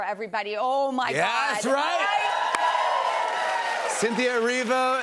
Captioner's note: cheers and applause